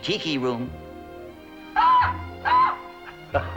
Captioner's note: squawks; laughs